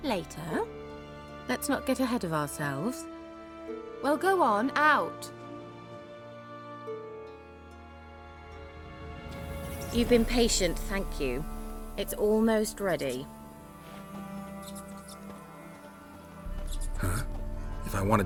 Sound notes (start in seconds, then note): 14.3 mice squeaking